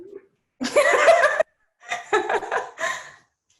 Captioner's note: laughs